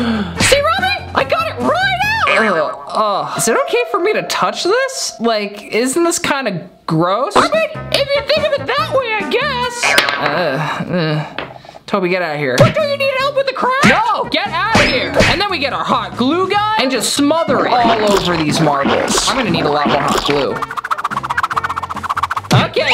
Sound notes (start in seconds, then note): 2.2 grunts in disgust; 10.3 grunts in disgust; 20.3 fast moving sound effect